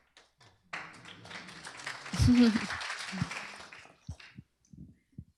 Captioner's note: applause